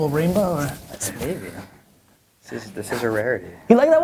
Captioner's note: voiceover